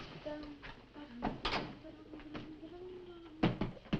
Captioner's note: Nan humming